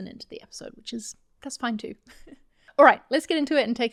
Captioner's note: chuckles